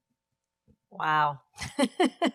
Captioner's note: laughs